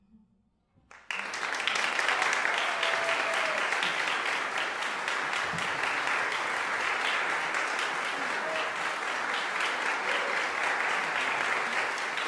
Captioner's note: audience applause